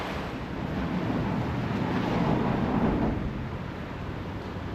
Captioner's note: rumbling sounds from vehicles above